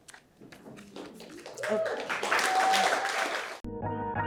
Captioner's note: audience applauds; upbeat music